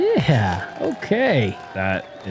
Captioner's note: cheering